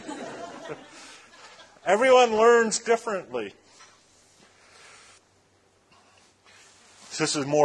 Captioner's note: laughter